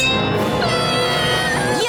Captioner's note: screaming